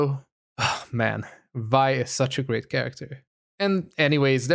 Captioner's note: sigh